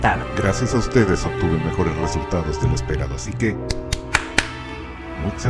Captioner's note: claps